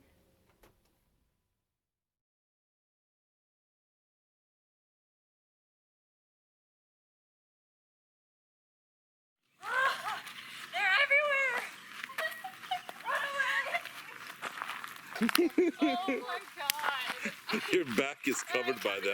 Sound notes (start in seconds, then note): 15.1 laughing